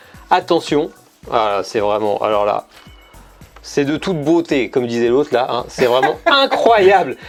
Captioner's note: laughs